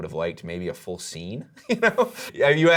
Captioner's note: laughs